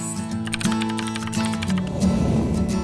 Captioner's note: lighthearted guitar music; keyboard clacking; lighthearted guitar music